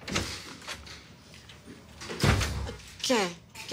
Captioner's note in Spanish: Sonido de la puerta